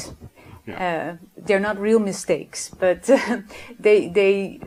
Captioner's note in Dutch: lach